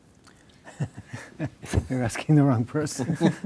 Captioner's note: laughs